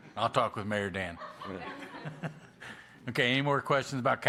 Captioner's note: laughter